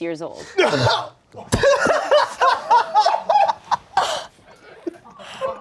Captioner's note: laughing